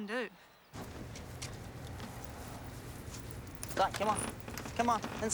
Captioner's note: footsteps tapping